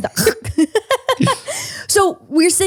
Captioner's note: both laughing